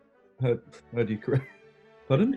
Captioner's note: laughs